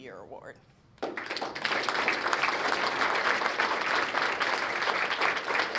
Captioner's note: applause